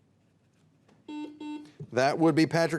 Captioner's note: buzzer dings